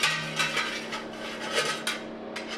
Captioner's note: clinking